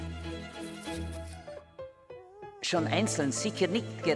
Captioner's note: dog whimpers